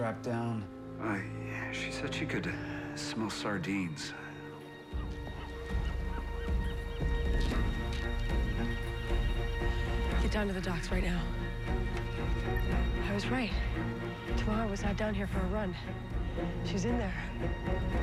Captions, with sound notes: IT WAS COLD. SHE WAS STRAPPED DOWN. UH, SHE SAID SHE COULD SMELL SARDINES. (seagulls crying) GET DOWN TO THE DOCKS RIGHT NOW. I WAS RIGHT. TAMARA WAS NOT DOWN HERE FOR A RUN.